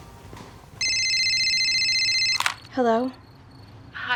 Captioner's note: phone ringing